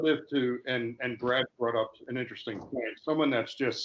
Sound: murmurs

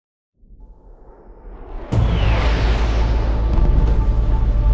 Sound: jet engine fly; gunfire, explosions

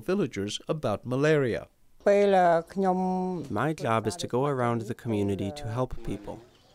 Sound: through translator

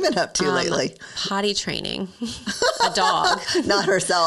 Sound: laughing

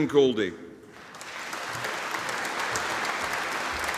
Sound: audience applauding

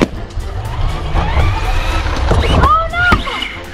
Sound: car whirs; balloon pops

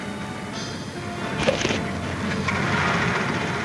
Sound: pensive orchestra music; cracking

